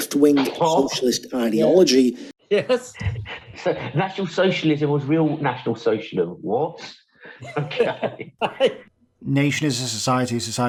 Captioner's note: laughing